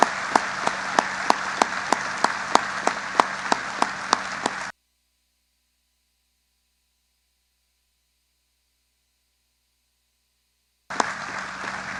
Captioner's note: applause